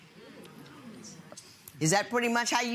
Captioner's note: audience murmuring